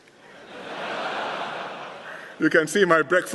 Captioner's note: laughter